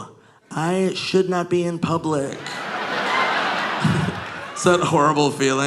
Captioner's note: audience laughing